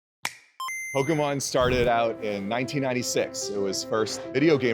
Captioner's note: game noise